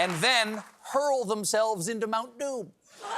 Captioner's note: cheers and applause